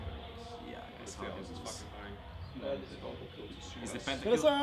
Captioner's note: team murmuring